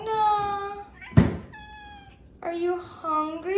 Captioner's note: Luna meows